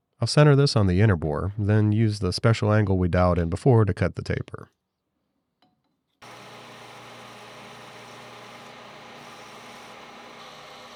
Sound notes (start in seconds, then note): 6.2 machinery whirring